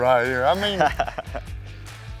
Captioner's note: laughs